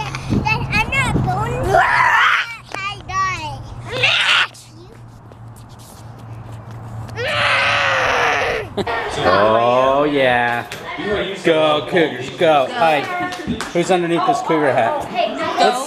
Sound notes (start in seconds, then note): 0.1 boy in hat babbling; 7.1 boy in hat roaring